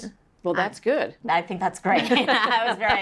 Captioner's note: laugh